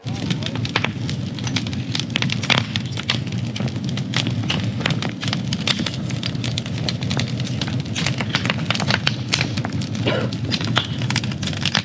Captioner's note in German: weniger Jubel; Lagerfeuer geräusche